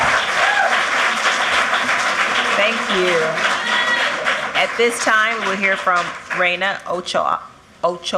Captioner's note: cheers and applause